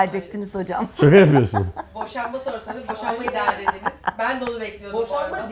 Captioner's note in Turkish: kahkaha